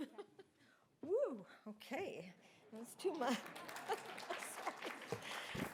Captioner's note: audience applauding; laughs